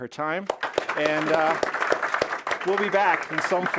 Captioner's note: audience applause